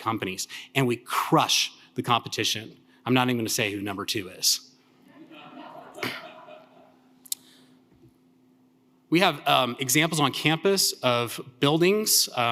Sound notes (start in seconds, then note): 5.1 audience laughing